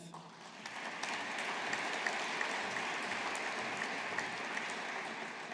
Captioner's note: audience applauding